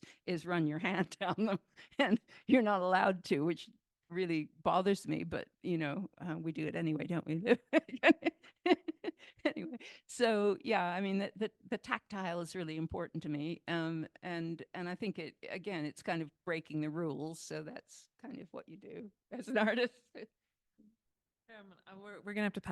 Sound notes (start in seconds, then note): 7.8 laughs